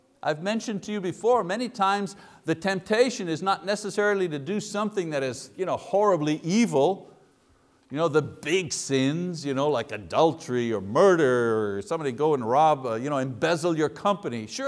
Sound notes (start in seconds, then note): none